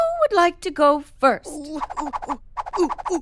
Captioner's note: excited